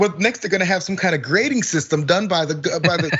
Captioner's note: laugh